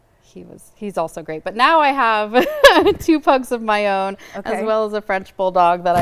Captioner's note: laughs